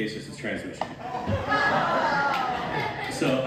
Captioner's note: audience reaction